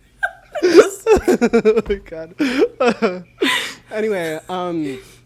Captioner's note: laughs; both laugh